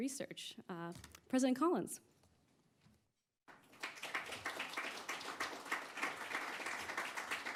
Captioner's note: applause